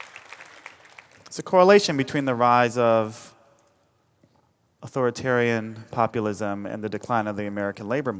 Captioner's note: applause